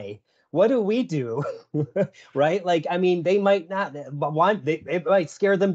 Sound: chuckles

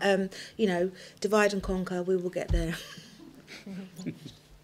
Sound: chuckles

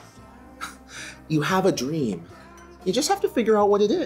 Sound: scoffs

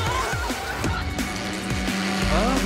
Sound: engine revving

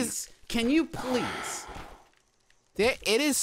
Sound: sighs

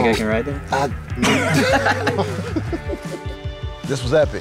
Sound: laughs

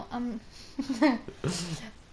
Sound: laughing

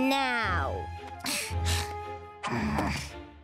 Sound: sighing

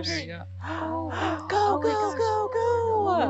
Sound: women gasp

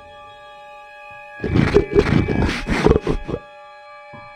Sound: growls; suspense music

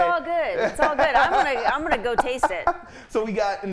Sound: laughing

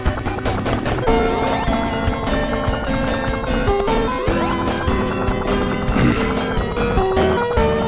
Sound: Tails whirring; Tails whooshing

